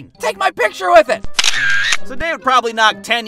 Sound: camera shutter clicking

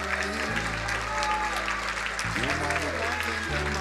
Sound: crowd applauding

